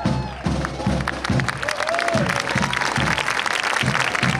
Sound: applause

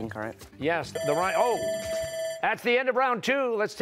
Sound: bell rings

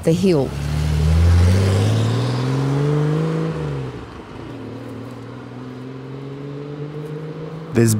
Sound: car sound drives away

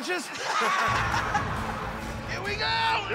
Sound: laughter

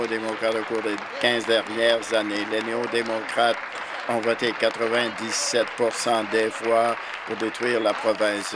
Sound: applause

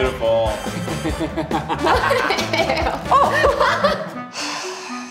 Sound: cast laughs; sighs

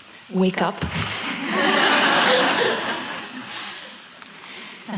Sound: laughter

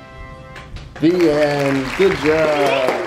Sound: triumphant music; applauding

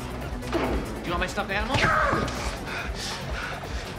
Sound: TROY exclaims

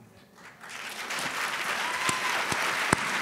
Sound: applause

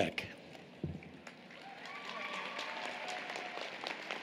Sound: applause, Cheering

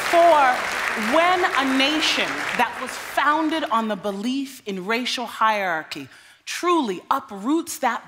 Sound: applause

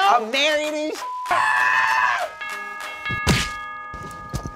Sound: men screaming

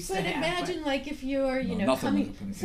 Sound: voiceover

